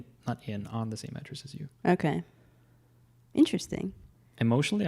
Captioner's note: none